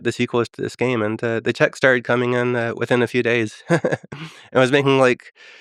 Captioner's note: laughs